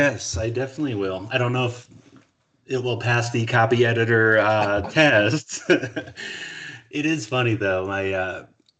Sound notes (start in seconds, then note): 5.4 laughing